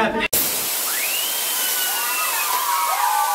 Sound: hissing

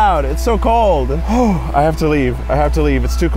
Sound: exhaling heavily

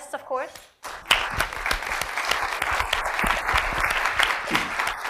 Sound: applause

